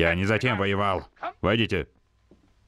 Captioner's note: knock raps